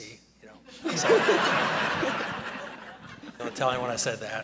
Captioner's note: audience laughing